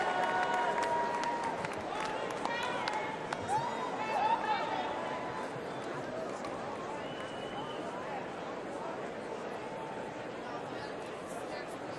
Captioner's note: cheers and applause